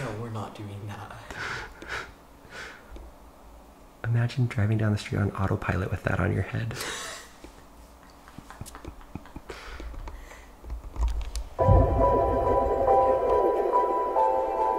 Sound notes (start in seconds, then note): 2.3 laughing quietly; 7.8 both laughing quietly; 11.6 mysterious music